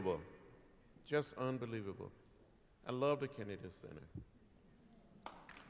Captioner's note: applause